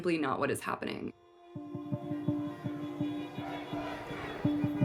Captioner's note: car horns honking